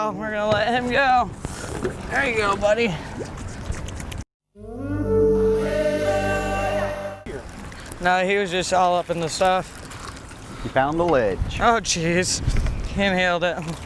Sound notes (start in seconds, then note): 4.6 blowing horn